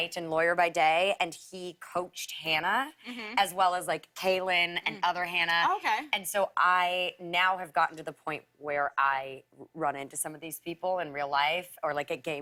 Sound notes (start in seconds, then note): none